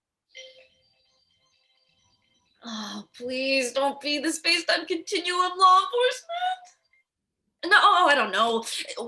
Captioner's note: ringtone